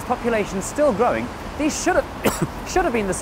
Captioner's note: cough